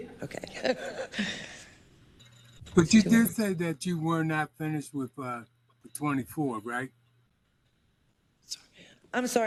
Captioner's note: laugh